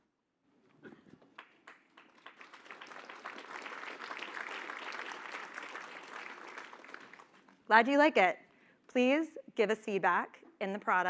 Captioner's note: applause